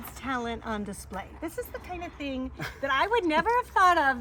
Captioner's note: chuckling